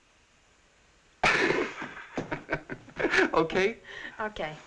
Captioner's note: laughing